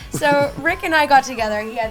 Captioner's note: laughs